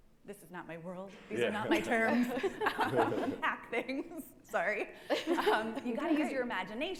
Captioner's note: laughing